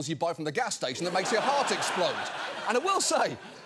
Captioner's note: audience laughs